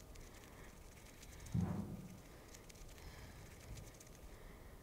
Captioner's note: head thuds